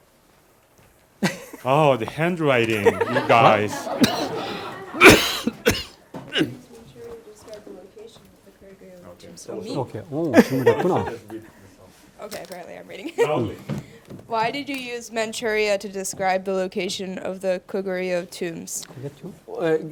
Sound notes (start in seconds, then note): 2.8 students and professor laughing; 4.2 coughing; 19.7 speaking in Korean